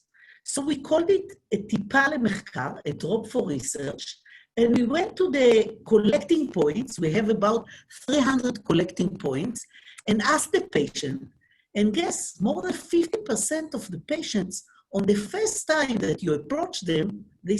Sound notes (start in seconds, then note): 1.5 speaking in foreign language